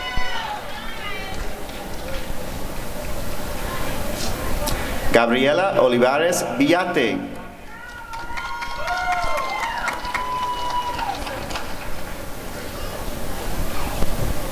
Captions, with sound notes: Gabriela Olivares Villate [applause and cheering]